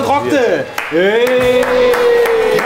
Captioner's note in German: Jubel, Applaus